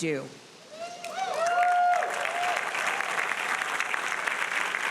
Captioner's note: audience applauding